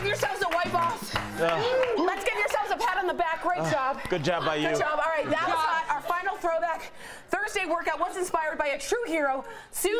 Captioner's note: laughter